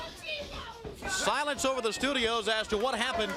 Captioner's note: crowd chatter